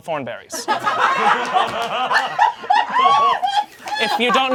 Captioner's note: audience laughing